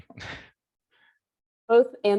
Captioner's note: chuckles